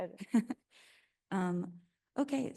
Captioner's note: attendee chuckling